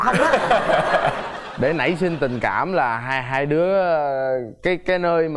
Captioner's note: girl laughing